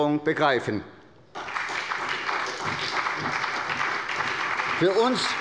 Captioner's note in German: Beifall bei der SPD